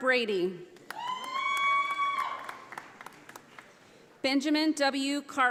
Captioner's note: audience applauding